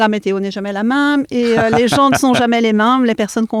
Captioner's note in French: Rires